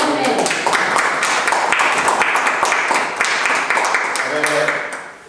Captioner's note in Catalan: aplaudiments